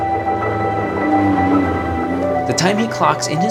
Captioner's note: car engine roaring